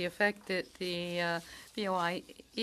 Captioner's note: speaking in French